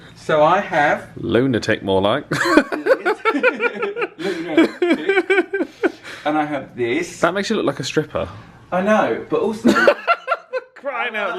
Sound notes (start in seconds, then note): 2.3 laughing; 2.3 laughs; 10.1 bursts out laughing